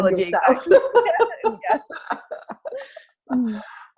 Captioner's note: both laugh